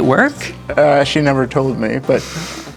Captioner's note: laughing